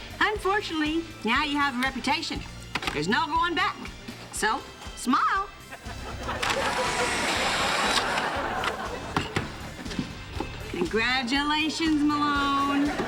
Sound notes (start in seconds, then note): 6.4 whirring; 6.4 clicking